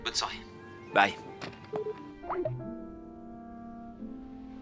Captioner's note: beep! beep!